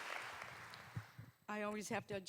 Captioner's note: applause